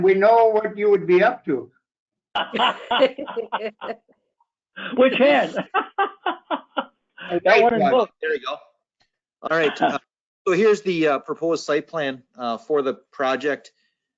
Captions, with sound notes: we'd know what you would be up to. (laughter) Which hand? There we go. All right, so here's the proposed site plan for the project.